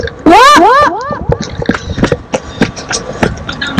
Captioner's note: running sounds